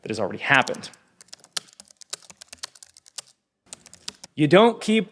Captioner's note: typing on a keyboard